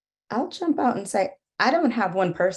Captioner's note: none